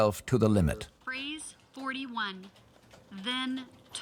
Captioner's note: AI Voice